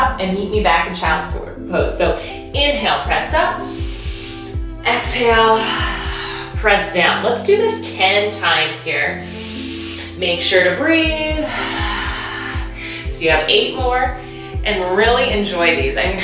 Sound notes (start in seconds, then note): 3.6 inhaling; 11.5 breathing